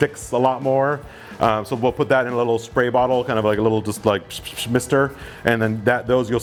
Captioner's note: mimics spray sounds